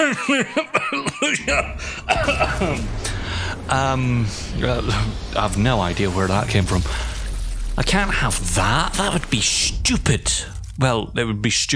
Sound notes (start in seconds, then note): 0.0 cough